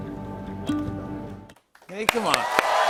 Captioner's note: cheers and applause